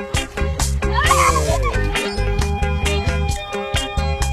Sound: upbeat keyboard music continues; laughing; upbeat keyboard music continues

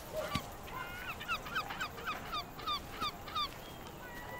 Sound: birds cawing

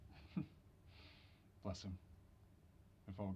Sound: chuckling

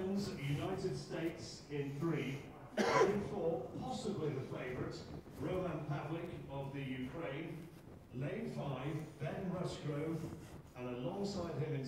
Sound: sports commentary

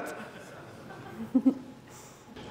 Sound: laughter

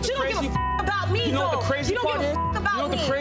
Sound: beeps; beep

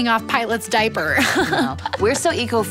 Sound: laughs

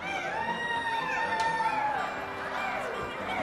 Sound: laughter and screeching; imitating seagulls

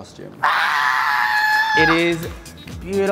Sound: exclaims

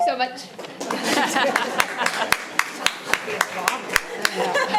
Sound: audience applauding

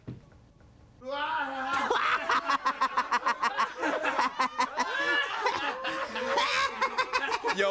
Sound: crowd laughter

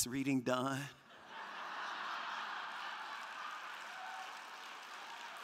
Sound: crowd laughing

